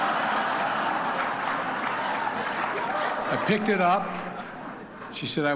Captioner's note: laughter